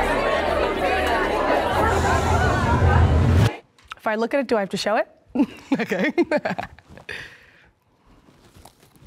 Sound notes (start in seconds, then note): 5.3 laughs